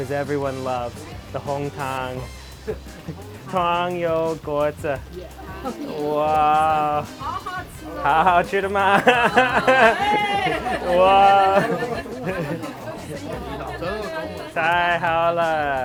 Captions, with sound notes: because everyone loves the hometown Tangyou Guozi (crowd cheering)